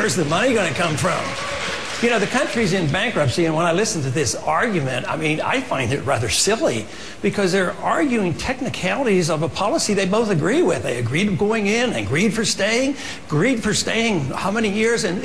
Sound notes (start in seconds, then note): 0.0 applause